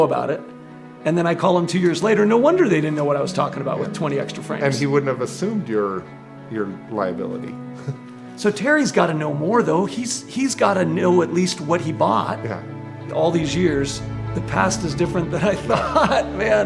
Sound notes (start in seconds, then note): 7.7 chuckles